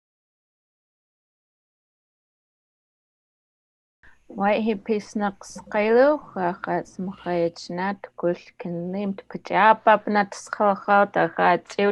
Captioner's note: foreign Language